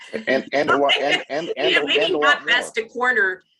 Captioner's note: laughing